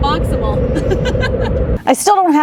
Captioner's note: silly giggles